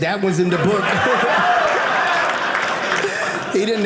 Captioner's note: audience laughing